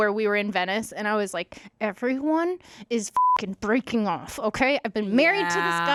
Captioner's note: beep